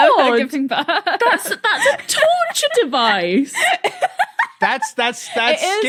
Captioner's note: laughs profusely